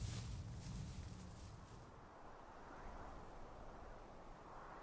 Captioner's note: wind whistling